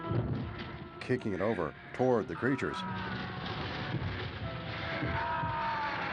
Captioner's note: groaning